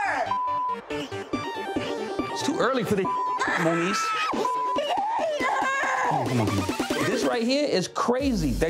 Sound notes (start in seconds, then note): 0.4 beep; 3.3 Moniece screaming